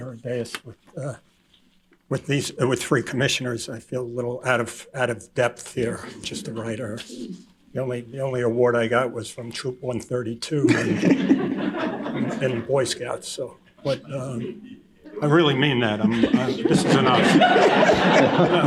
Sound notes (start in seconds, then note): 10.6 laughter